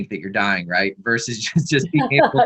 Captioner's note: both laughs